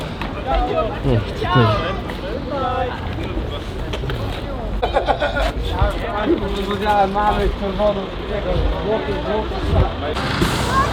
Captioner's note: chatter